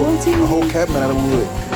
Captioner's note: car alarm beeps